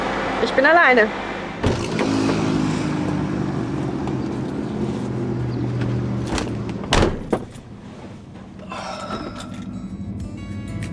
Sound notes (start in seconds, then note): 8.6 sigh